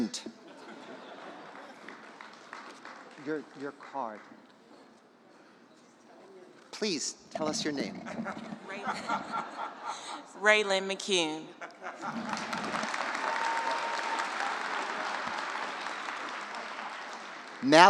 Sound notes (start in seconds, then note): 0.4 laughter, applause; 7.8 laughter; 12.0 applause